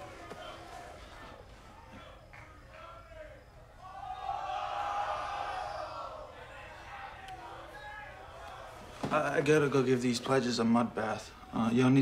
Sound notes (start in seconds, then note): 4.4 cheering in background